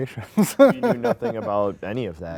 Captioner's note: laughing